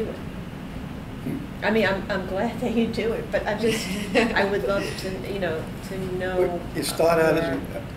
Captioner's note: laughs